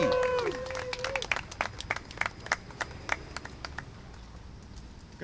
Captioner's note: applause and cheering